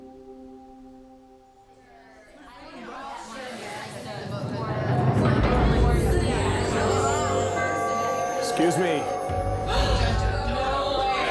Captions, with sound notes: (contestants chattering) - Excuse me. - No way.